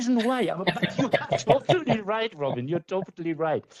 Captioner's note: laughing